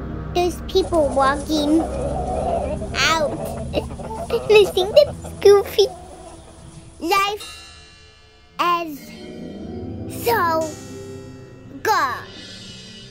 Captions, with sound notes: and there's people walking out. (squeaking) And I think that's goofy. Life, is, so, good